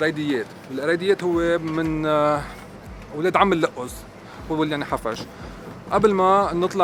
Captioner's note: in Arabic